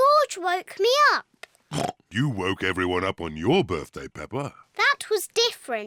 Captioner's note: oinks